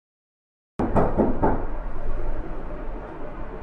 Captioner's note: knocking